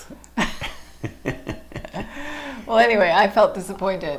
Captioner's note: laughing